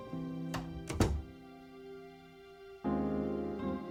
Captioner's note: door thuds